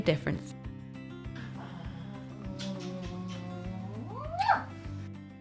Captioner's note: kisses